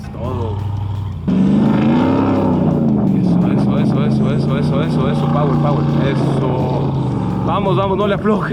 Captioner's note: engine revving